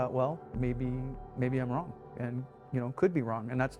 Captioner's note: voiceover